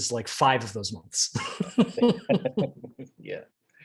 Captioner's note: both laughing